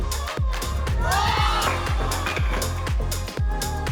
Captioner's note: all screaming